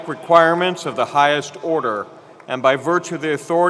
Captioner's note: applause